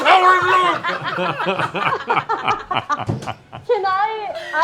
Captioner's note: laughter